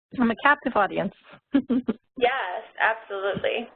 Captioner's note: laughing